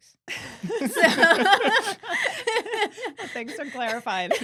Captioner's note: laughing